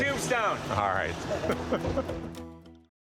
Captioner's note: laughter